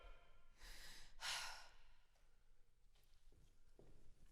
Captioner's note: Sarah sighing; footsteps receding